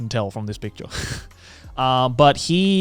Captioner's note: chuckles